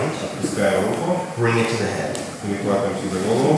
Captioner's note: speaking in a foreign language